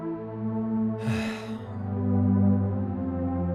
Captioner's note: Zarek sighs